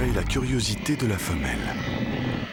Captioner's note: growls